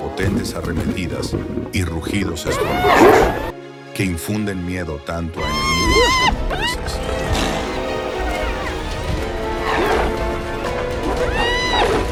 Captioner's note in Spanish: grito